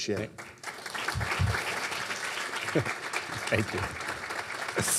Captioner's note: audience clapping